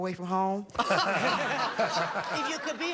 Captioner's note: laughter